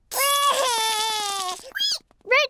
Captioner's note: cries